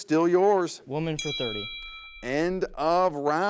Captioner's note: bell clangs